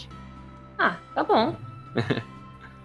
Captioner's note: chuckles